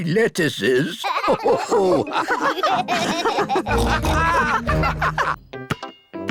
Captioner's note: all laugh